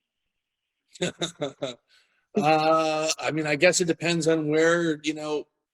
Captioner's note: laughs